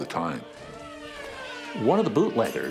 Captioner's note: police siren wails